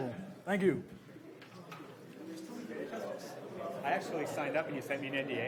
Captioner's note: audience chatter